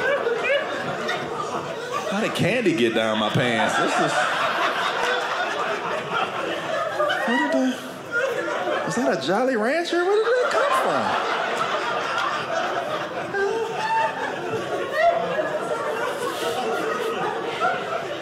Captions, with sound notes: How did candy get down my pants? (audience laughing) Is that a Jolly Rancher? Where did that come from? (audience laughing)